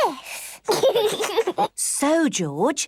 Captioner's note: giggles